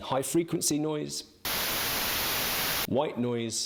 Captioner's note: static blaring